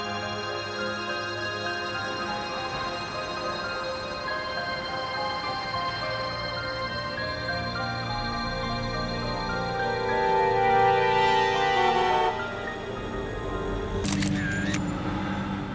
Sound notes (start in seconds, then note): 11.6 traffic bustling; 14.0 shutter clicking